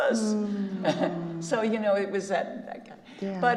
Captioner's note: chuckles